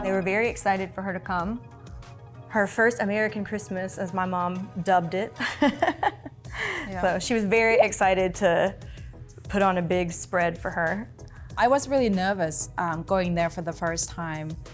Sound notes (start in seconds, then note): 5.4 laughs